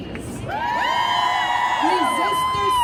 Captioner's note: crowd cheering